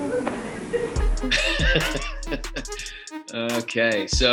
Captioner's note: laughs